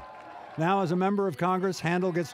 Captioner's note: cheers and applause